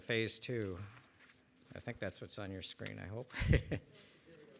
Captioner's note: laughs